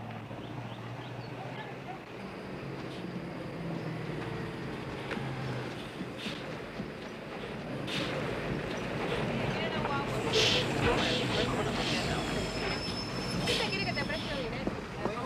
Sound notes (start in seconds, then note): 7.9 indistinct chatter